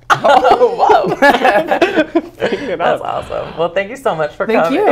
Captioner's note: laughs